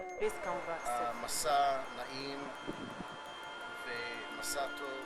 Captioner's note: speaking hebrew